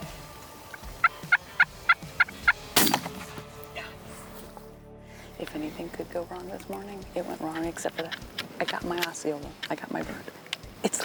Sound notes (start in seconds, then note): 0.4 turkey calling; 2.7 gun shoots